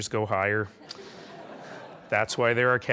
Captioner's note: laughing